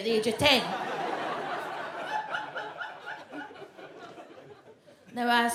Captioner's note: audience laughs